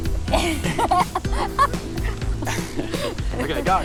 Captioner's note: laughs